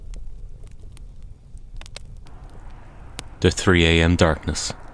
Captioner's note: sound of Campfire in background, a car pulls to a stop. Handbrake engages